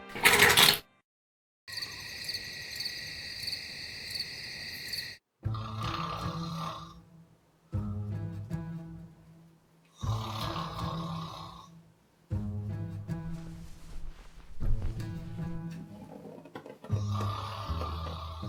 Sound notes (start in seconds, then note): 0.1 toilet slurping; 1.7 crickets chirping; 5.4 light music; 5.7 Henrietta snoring